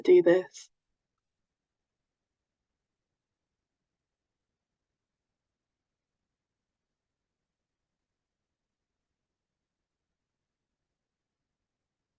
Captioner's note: silence